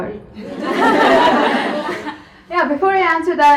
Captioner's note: audience laughs